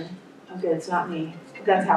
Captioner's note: phone rings